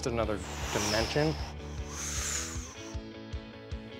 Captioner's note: whooshing